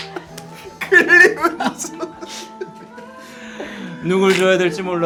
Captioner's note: crying